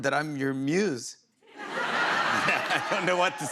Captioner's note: laughter